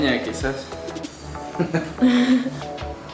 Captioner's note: laughter